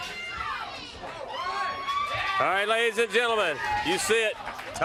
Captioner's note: crowd cheering